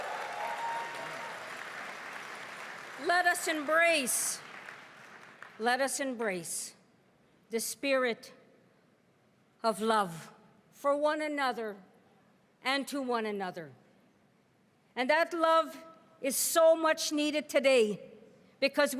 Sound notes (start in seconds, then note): 3.1 cheering and applause